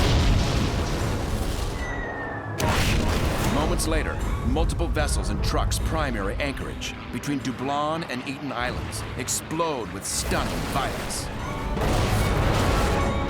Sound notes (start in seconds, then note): 1.5 missiles whirring; 2.6 explosion; 11.6 explosions